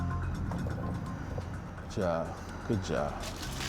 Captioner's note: exhales